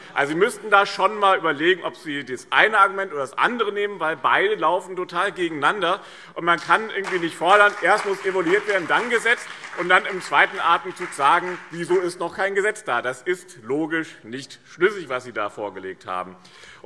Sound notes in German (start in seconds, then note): 6.5 Beifall BÜNDNIS 90/DIE GRÜNEN und CDU